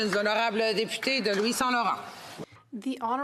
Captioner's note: some Applause; speaking French